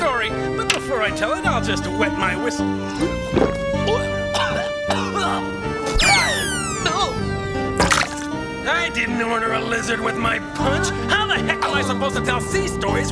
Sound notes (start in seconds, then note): 4.3 sailor coughs and chokes